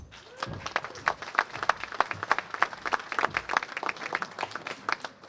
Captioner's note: applause